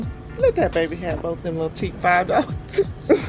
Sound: laughs

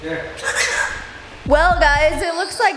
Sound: bird squawking

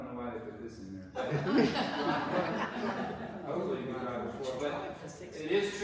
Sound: audience chuckles

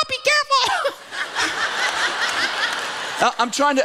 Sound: laughter

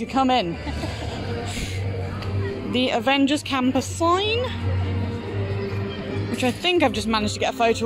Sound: laughs

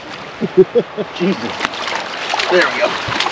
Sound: chuckling

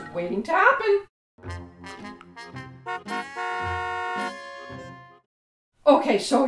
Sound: graphic of Grannny's Driving School with honking car horns in background

